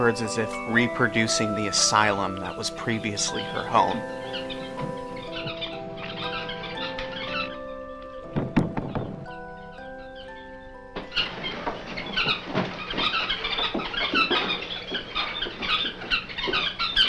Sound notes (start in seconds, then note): 5.7 birds chirping; 8.3 knocking on door; 12.4 birds chirping